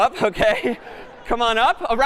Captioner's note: laughter